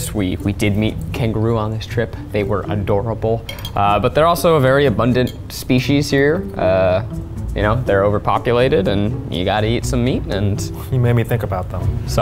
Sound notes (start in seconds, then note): none